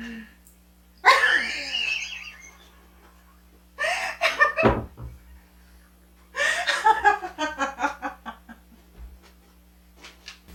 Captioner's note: laughing